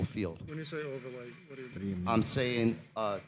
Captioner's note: faintly speaking